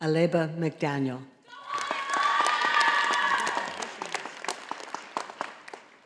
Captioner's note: audience applauding